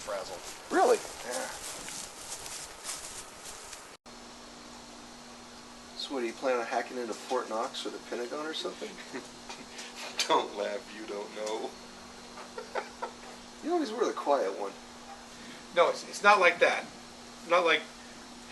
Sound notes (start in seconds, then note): 12.4 giggles